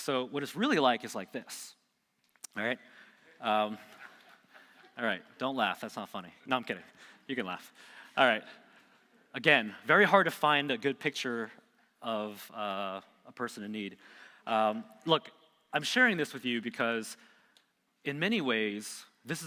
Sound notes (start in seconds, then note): 2.7 man laughing